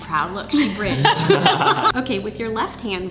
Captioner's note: laughing